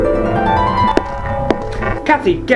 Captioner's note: foot Steps